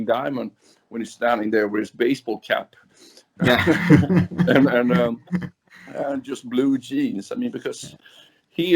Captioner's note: laughs